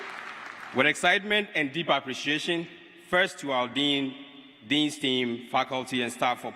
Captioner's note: cheers and applause